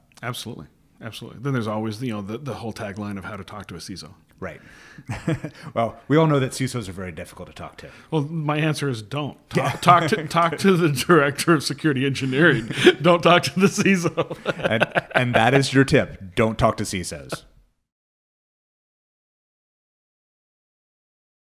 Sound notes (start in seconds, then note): 5.0 laughs; 9.5 laughs; 12.0 laughing